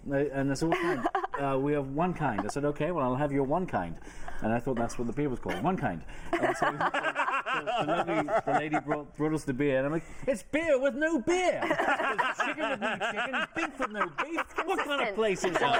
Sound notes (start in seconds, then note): 6.3 laughter; 11.5 laughter